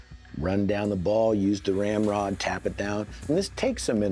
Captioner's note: none